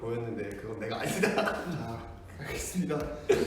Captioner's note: laughs